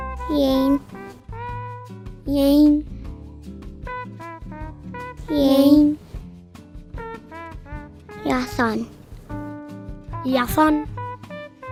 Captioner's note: children speaking Arapaho numbers